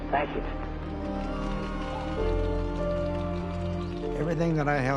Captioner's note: cheering